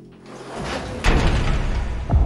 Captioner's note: locks release mechanically on door opening